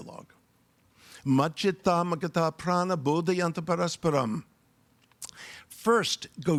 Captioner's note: speaking in foreign language